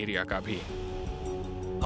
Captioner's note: narrating